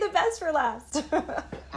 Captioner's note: laughter